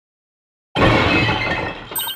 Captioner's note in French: crash